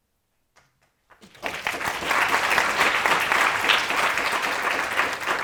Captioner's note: audience applauding